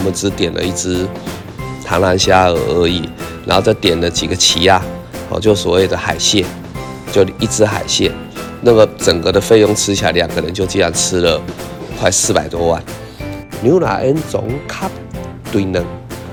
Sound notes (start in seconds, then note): 4.4 Taiwanese